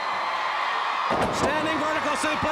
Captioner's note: crowd cheering